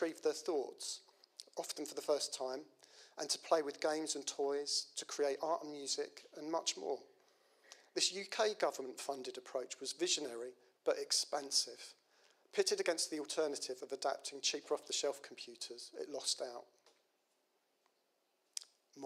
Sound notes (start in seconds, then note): none